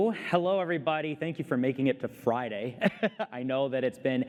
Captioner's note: laughter